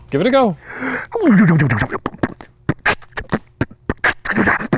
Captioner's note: beatboxing